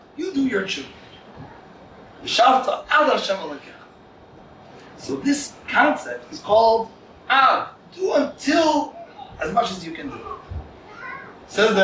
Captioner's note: Hebrew